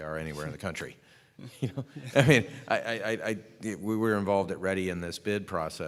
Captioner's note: laughter